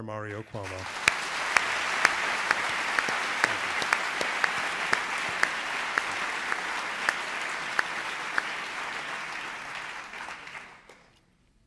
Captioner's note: applause